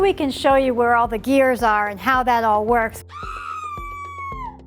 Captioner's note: screaming noise